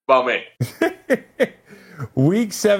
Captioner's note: laughing